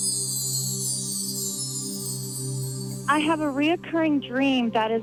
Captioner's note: bells chiming